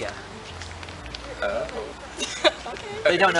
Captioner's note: awkward laugh